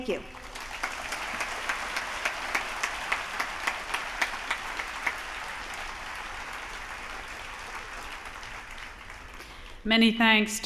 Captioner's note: applause